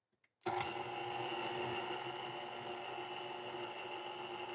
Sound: mixer whirring

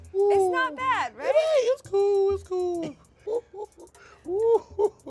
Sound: laughs

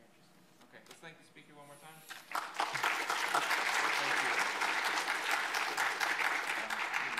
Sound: audience applauds

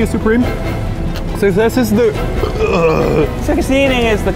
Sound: burping

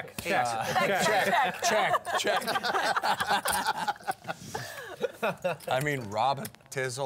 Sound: laughing

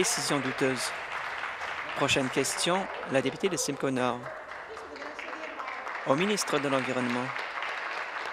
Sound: applause

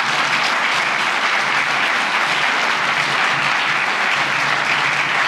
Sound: applause

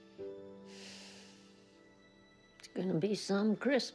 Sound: sighs

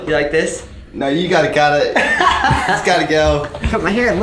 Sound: laughing

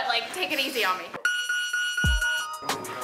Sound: device beeping; upbeat music

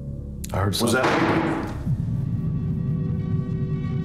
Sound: bang

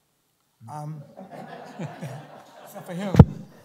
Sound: laughter

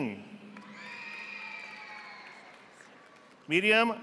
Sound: audience applauding

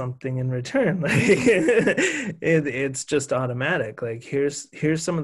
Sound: laughs

